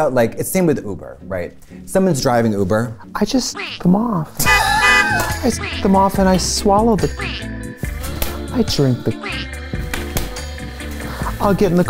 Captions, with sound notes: Same with Uber, right? Someone's driving Uber. I just... -[laughs] -[horn honks] I suck them off and I swallow the cum. I drink the cum.